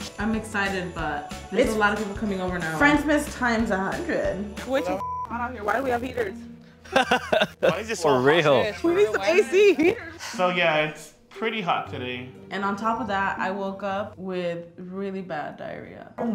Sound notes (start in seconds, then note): 5.0 beep; 6.9 laughs